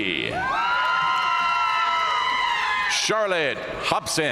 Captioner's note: audience cheering and applauding